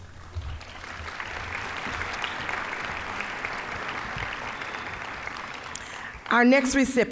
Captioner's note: applause